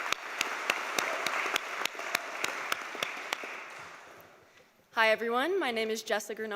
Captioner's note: cheers and applause